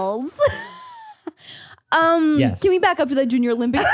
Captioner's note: laughs